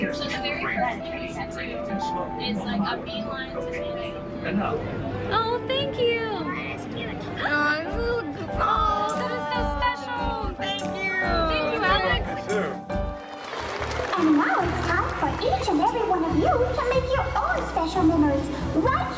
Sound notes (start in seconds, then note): 0.0 piano; 7.6 collective aws